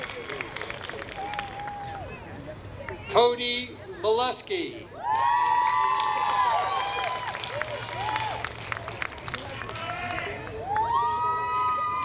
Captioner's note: applause